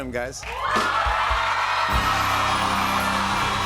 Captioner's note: cheers and applause